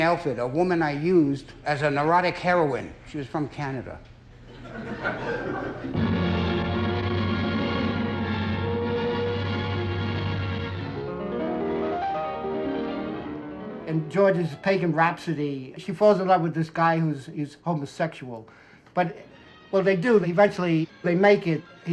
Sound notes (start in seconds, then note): 4.4 laughter; 5.9 dramatic music